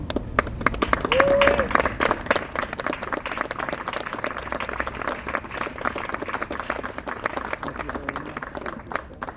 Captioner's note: applause